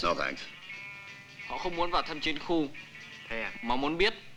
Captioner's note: Malay spoken audio